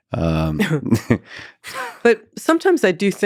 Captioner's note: both chuckles